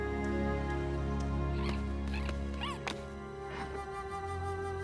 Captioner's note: chittering